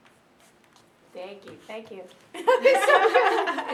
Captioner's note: laughing